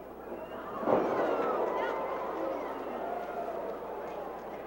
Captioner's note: crowd exclaiming